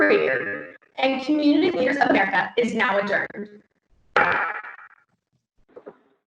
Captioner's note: gavel hits